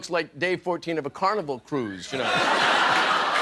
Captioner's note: laughter